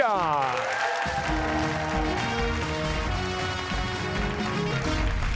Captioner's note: cheers and applause